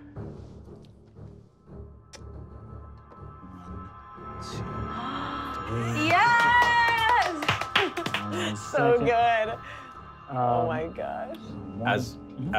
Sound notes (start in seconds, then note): 5.8 players gasp; 5.9 clapping